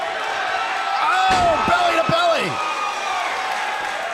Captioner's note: crowd cheering